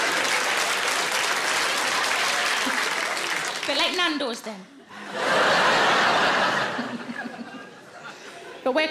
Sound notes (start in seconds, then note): 4.8 audience laughs; 5.2 laughs